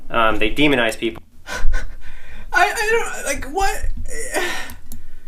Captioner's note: laughs